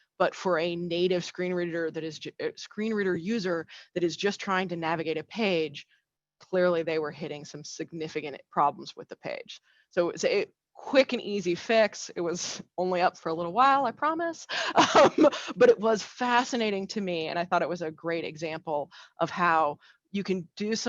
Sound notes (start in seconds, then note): 14.7 laughs